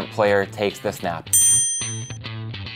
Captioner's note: electronic beep; upbeat music